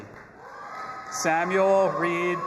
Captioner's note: audience applauding and cheering